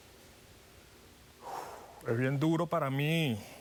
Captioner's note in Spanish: exhala